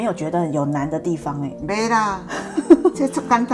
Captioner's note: laughs